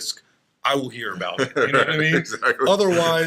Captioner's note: laughs